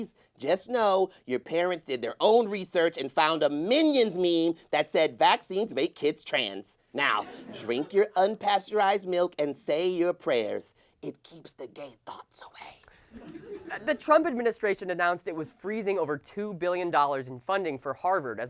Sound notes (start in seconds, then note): 10.6 whispering